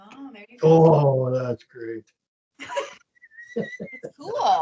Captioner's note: laughing